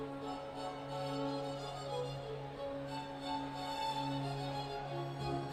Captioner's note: none